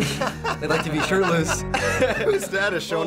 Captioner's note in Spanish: jadea; ambos se ríen